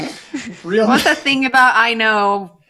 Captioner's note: laughter